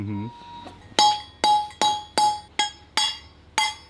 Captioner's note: metal clanking